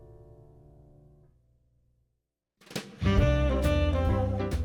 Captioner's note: none